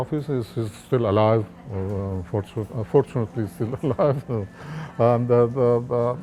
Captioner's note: laughs